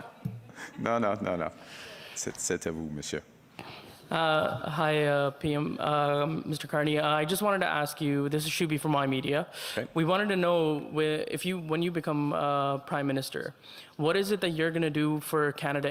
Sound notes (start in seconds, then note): 3.3 speaking French